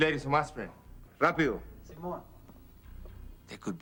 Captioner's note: man speaking foreign language